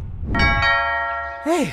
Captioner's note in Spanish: ding dong